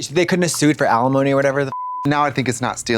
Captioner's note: beep